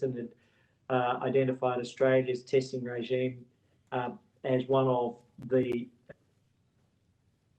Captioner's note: audio distorts